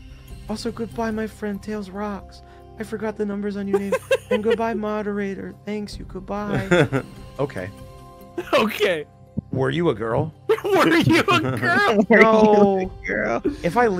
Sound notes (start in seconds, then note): 10.8 laughs